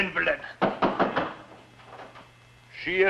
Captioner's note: knocking on door